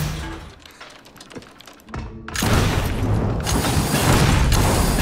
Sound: keyboard clicking

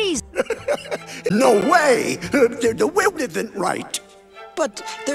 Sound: chuckles

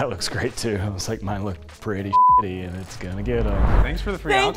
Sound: beep

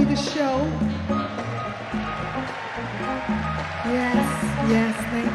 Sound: audience cheer and clap

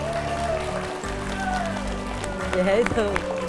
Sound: cheering

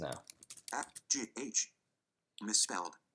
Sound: typing

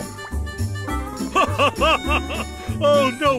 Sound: laughing

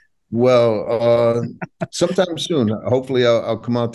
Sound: laughing

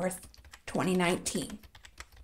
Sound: typing

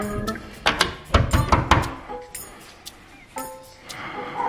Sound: door locks; banging on door

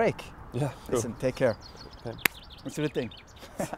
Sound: laughing

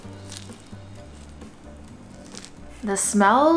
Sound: jazzy instrumental music; food squishing

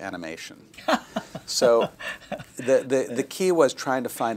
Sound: laughter

